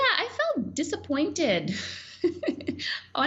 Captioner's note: laughing